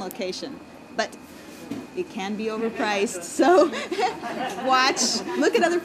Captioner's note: laughing